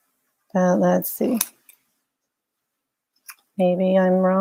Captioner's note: scissor snips